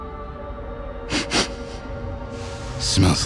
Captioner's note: olfateo